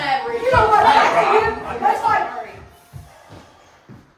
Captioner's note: arguing